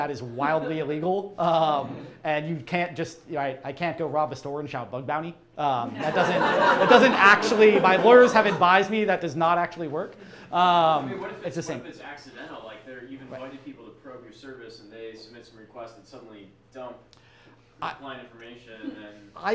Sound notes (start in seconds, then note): 5.8 crowd laughs